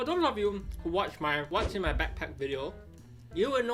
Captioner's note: graphic whooshes